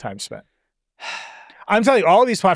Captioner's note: sighs